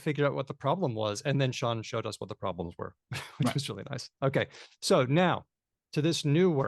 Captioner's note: laughs